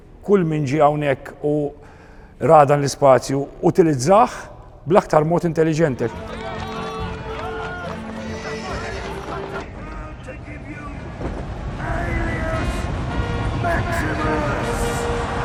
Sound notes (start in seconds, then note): 7.1 crowd bustling; 8.2 horse neighing